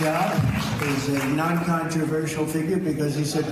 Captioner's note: applause